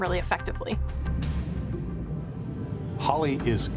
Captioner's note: water bubbling